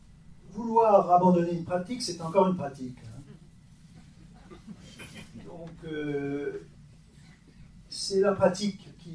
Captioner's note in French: rires